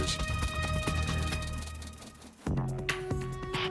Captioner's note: wings whirring